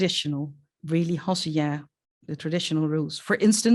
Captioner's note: non-english speech